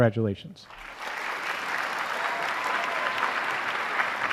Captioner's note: applause